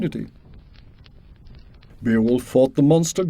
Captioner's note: fire crackling